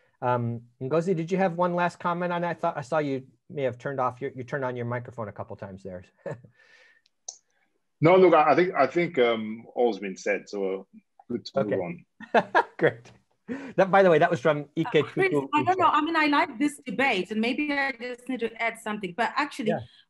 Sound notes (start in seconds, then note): 6.3 giggling; 12.2 laughing